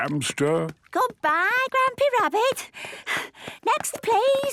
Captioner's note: panting